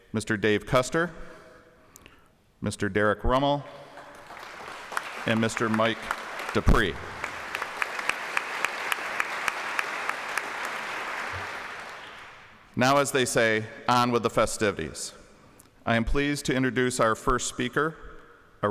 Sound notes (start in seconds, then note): 8.0 applause